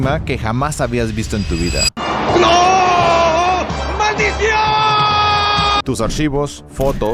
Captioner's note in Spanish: grito